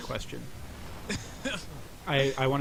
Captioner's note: laughing